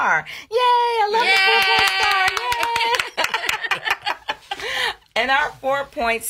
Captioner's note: claps; laughs